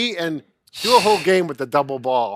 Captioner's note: sheeshing